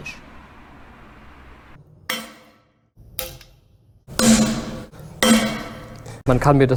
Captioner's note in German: Knall- und Scherbengeräusche